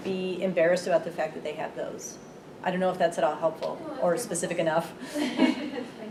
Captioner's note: chuckles